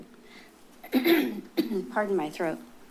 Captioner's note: clears throat